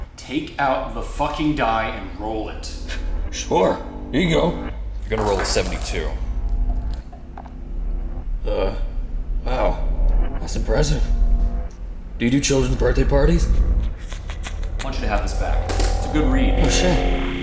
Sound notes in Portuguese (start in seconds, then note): 0.7 exasperado; 3.0 sarcasticamente; 12.2 sarcasticamente; 13.5 MILO'S JOURNAL snickers; 17.0 Áudio pulando